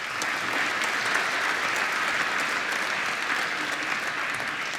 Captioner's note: applause